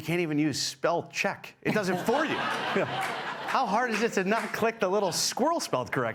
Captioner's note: laughter